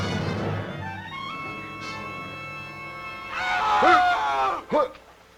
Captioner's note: dramatic music; screaming